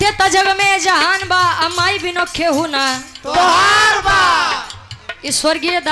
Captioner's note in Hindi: चीखने की आवाज़